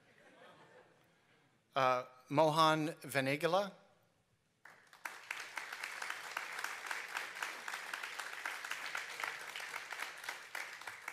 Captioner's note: applause